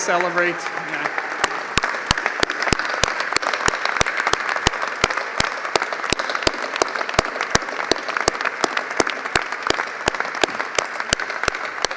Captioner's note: cheers and applause